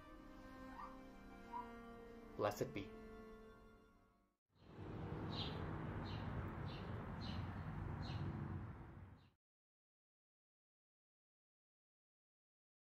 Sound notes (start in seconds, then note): 4.6 5 Birds Chrips and Passing Vehicles are Heard